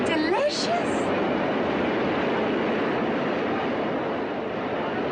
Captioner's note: traffic hums